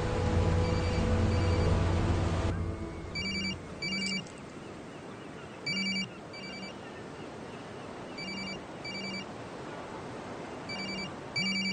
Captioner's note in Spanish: Suena el celular